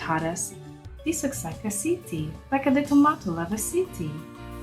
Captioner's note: Icelandic accent